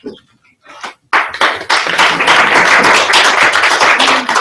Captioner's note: applause